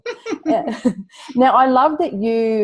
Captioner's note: laughs